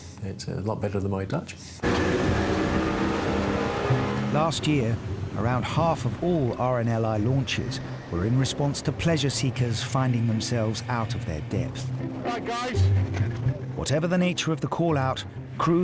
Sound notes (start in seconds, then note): 1.8 boat speeding